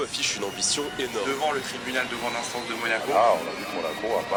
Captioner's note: tv chatter in French